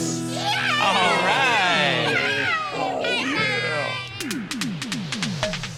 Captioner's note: cheering